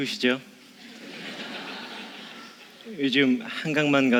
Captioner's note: laugh